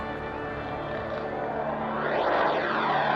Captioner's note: jet engines roaring overhead